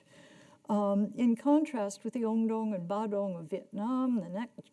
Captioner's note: speaking in a foreign language